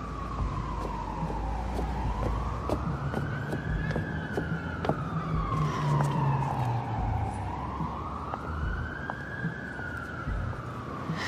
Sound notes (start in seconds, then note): none